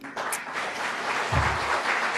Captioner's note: clapping